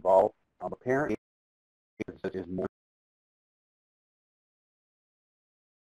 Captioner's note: feedback drowning out speech